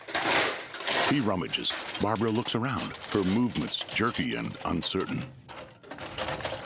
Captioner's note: tools clanking